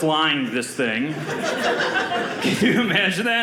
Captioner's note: audience laughing